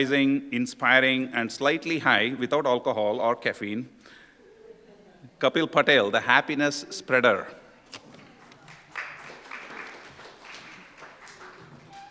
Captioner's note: applause